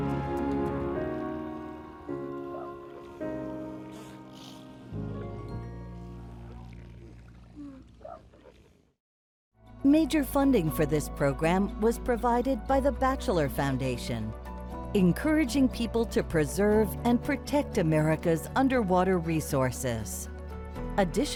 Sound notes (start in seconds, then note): 0.0 light dramatic music; 7.8 seals grunting; 8.2 light dramatic music; 8.8 seals grunting softly